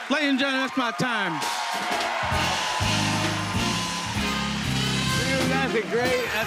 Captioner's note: cheers and applause